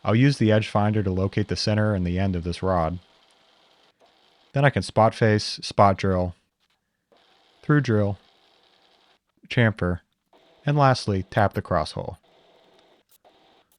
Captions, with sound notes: I'll use the edge finder to locate the center and the end of this rod. (edge finder whirring) Then I can spot face, spot drill, through drill, chamfer, and lastly, tap the cross hole.